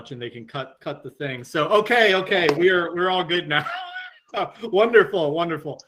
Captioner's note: laughs